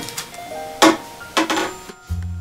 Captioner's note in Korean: 페트병 부딪히는 소리